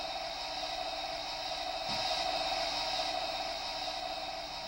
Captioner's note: mechanical noise